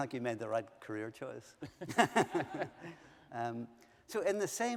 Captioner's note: laughter